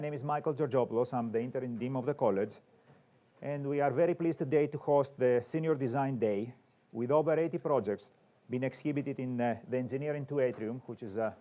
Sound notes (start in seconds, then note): none